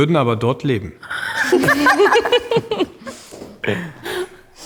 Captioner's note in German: lachen